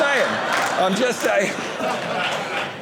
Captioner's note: audience laughing